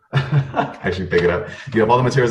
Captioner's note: laughs